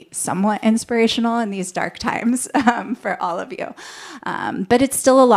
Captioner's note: laughter